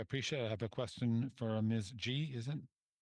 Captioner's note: speaking French